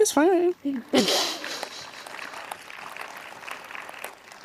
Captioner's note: participants clap